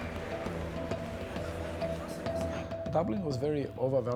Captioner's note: people chattering